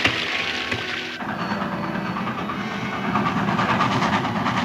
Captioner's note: train rumbling